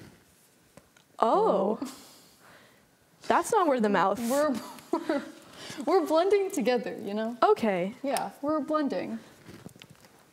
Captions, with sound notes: Oh. That's not where the mouth-- [CHUCKLES] We're blending together. We're blending.